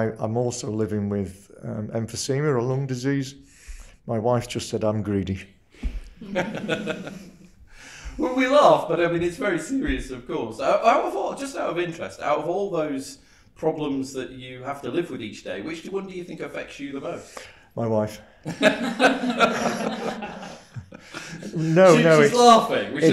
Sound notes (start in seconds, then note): 6.1 guests laugh; 6.3 laughs; 18.4 guests laugh; 18.5 laughs